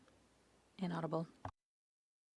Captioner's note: speaking French